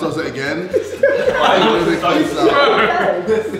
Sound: laughing

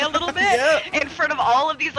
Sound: laugh

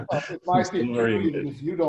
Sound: laughs

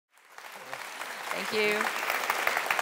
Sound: audience claps

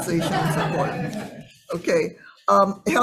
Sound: audience laughing

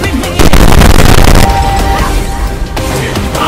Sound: bass rumbling/TRIGGERED

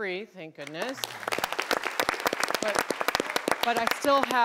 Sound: applauding

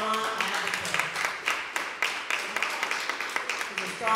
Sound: applause

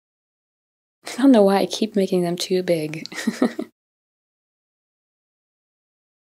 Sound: giggles

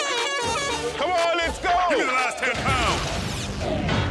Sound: voiceover

